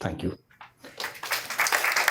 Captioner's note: applause